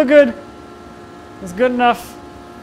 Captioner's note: machine whirring